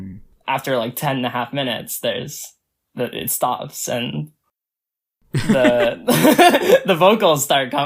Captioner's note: both laugh